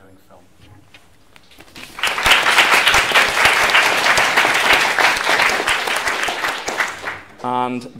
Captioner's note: applause